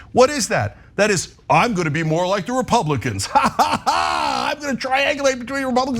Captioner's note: laugh